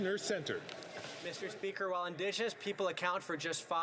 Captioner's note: speaking French